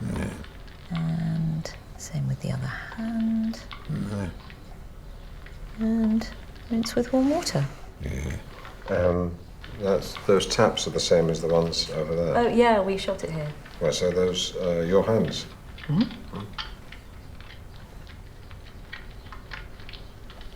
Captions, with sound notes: - Yeah… - And same with the other hand. (Alan moans) - And rinse with warm water. - Yeah. And that's… Those taps are the same as the ones over there. Oh, yeah, we shot it here. Right, so those are your hands? Mm-hmm.